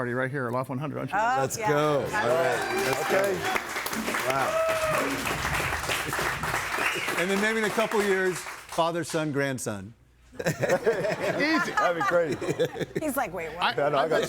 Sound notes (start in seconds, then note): 5.4 audience cheering and applauding; 10.3 group laughing